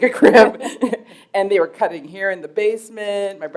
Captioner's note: chuckle